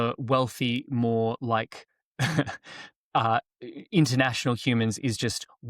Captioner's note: chuckles